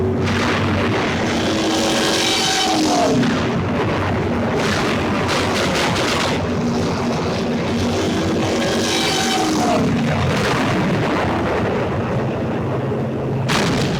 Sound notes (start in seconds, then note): 0.1 bombs exploding; 5.6 guns firing rapidly